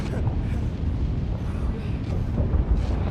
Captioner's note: gasping